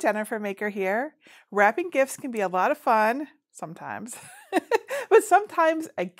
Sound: giggles

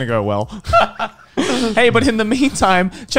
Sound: men chuckling

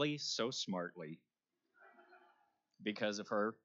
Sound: laughter

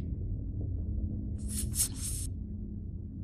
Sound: puff-puff-puff

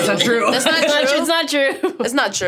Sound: laughing; laughs

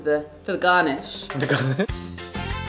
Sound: lively music; laughs

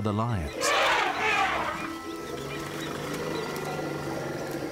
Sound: elephants roar

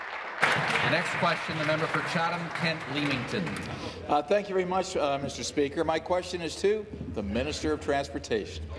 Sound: applause

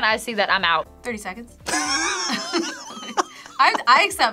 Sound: laughs

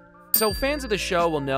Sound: dings

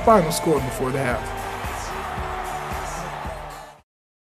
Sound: crowd cheering

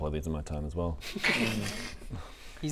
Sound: laughs in BS

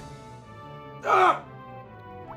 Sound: screams

